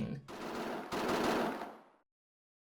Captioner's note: repeated gunshots; silence